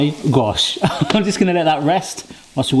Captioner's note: laughing